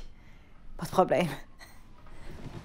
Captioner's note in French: petit rire